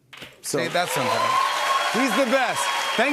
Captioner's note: cheers and applause